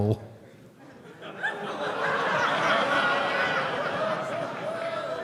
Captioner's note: audience laughs